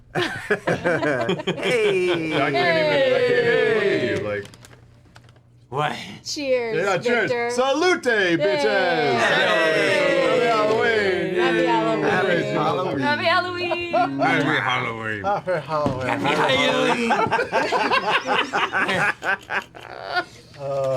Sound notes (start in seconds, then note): 0.2 laughter and cheering; 9.0 cheering; 13.2 laughter